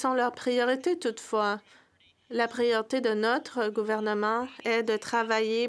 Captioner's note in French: voix de l'interprète